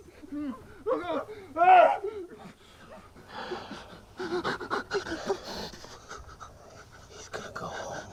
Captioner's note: gasping